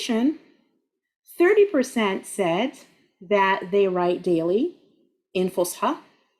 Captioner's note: speaking Arabic